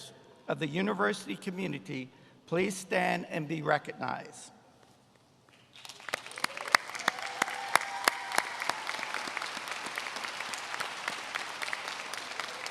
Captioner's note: applause